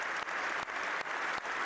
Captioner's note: applause